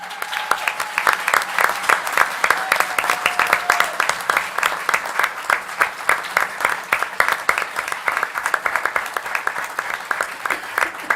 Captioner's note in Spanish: Aplausos